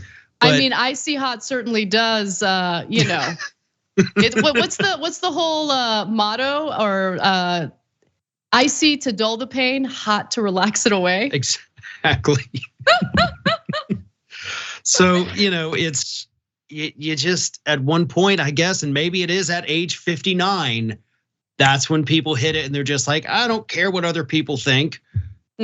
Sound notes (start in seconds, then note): 4.0 laugh; 12.6 laugh